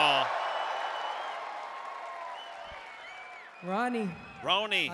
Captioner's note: applause